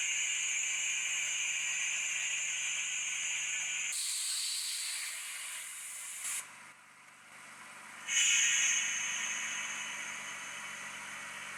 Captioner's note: air hissing noise